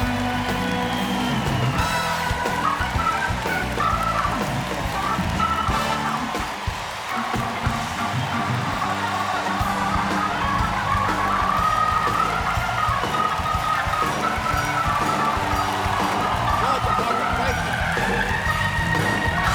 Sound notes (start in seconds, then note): 3.2 applause